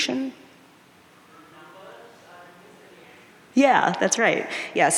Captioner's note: audience murmuring